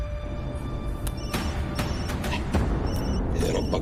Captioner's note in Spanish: Suena el celular